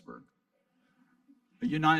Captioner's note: audience laughing